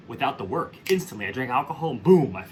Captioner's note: fingers snapping